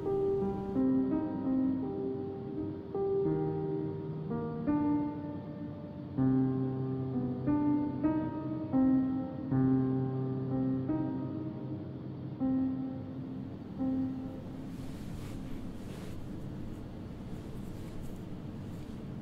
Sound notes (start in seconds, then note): 13.4 music fades; 14.3 bed sheets rustling